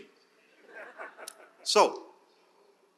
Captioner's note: laughter